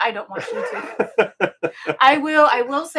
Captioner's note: both laughing